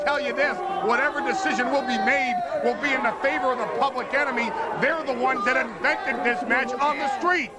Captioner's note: crowd cheering